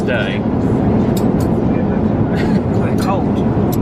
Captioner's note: cutlery clanks